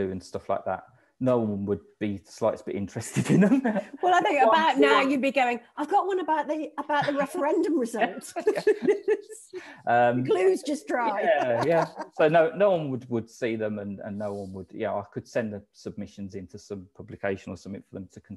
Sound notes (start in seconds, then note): 10.9 laughing